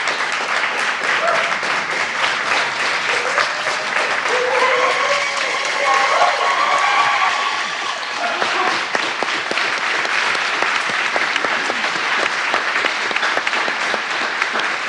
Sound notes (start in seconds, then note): 3.2 applause